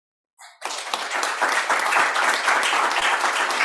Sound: applause

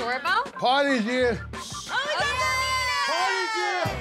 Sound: girls Screaming

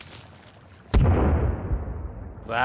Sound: explosion

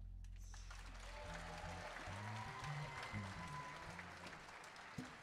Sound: audience applauding

